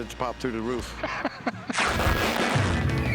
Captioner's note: laughs